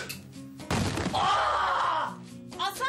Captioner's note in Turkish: Bağırıyor